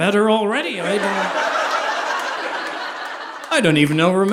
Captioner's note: audience laughing